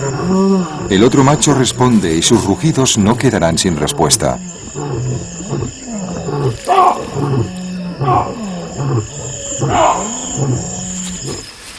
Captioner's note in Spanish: gemido